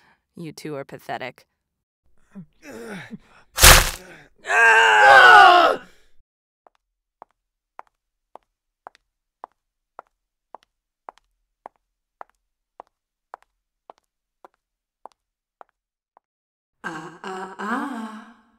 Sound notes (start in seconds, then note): 6.5 clacking footsteps